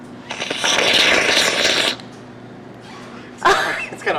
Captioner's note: air swooshing